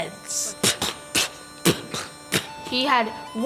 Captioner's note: spitting